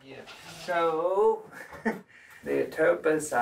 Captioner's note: doctor laughs